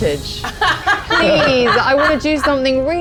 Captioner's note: laughs